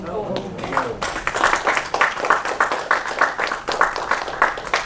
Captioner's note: applause